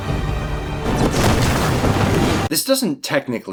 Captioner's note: flap of cape